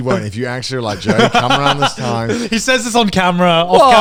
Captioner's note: laughs